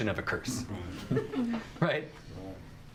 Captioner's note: audience chuckles